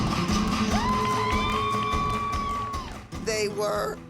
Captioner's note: applause and cheering